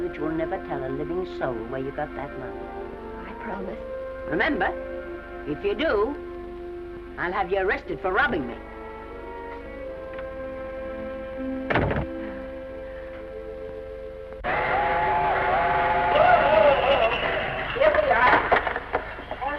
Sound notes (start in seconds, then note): 11.6 door closes; 14.5 train whistle blows